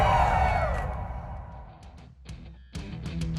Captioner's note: fans screaming